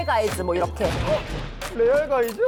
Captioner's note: thunder claps everywhere today